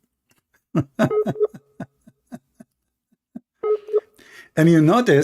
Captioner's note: Ketawa